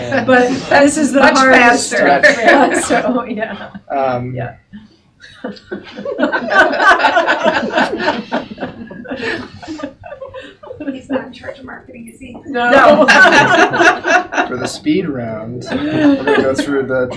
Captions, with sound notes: But this is the hard answer. Much faster. So yeah. (laughing) He's not in charge of marketing, you see? No. For the speed round. We go through the